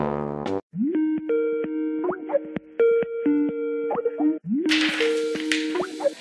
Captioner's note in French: sonnerie Skype